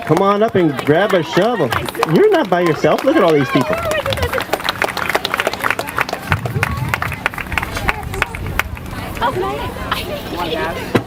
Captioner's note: applause